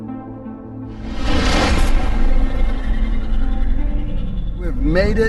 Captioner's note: airplane roaring